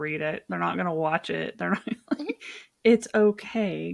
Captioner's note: laughs